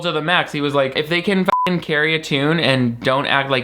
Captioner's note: beep